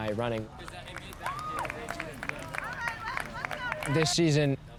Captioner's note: people chattering, cheering